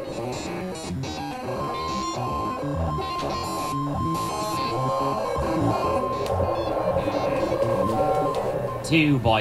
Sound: incomprehensible modem screeching

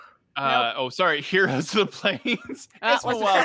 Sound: laughs

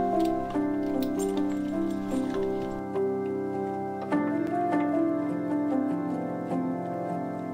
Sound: dog collar jingling

